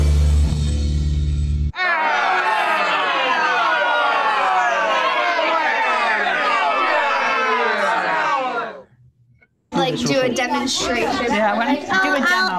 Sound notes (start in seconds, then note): 1.8 indistinct chatters